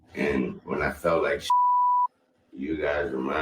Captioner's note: beep